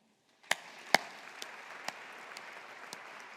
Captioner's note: audience applauding